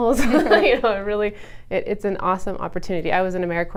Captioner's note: laughs